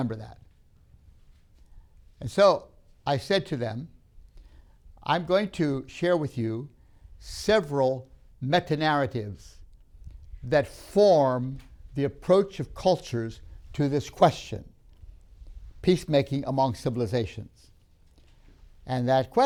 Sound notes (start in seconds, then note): none